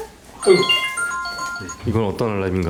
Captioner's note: alarm sound